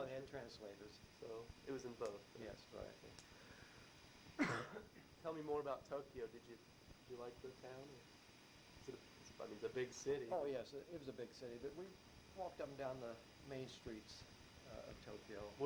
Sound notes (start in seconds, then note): 4.3 coughs